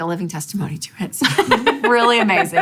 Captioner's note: laughing